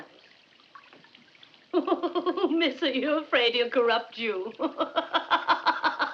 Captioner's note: laughing